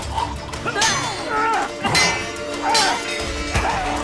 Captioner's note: gags; grunting, swords clanging